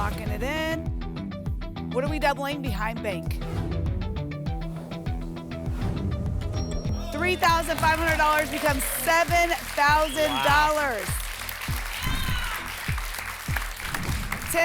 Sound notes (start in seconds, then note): 11.8 applause and cheering